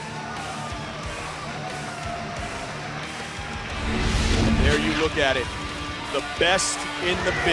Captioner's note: cheers & applause